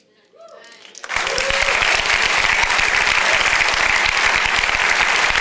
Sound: congregation applauds

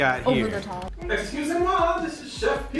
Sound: Chef Pierre speaking foreign language

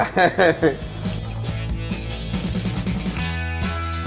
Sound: laughs

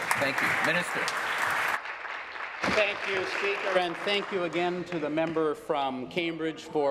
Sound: applause

